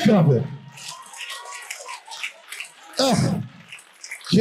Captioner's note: audience applauding